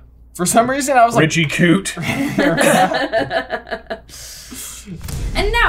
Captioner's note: laughter